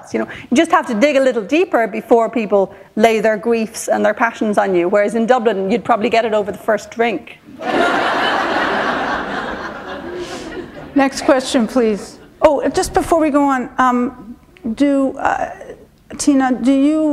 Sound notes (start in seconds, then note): 7.5 laughter